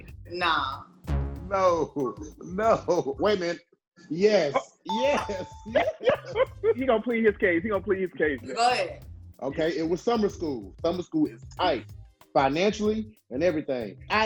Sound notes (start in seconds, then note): 4.9 bell chiming; 5.0 laughing